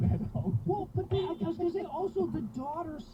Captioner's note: beep!